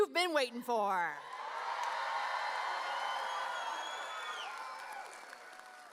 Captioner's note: audience cheering